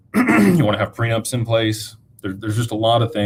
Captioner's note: clears throat